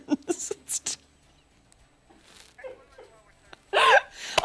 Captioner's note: laughter